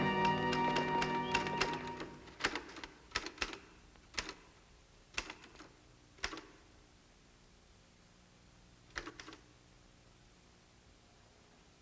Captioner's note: typewriter clicking